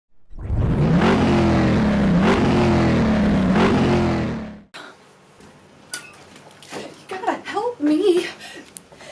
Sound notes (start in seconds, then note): 0.3 revving car engine